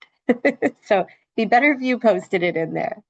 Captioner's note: laughs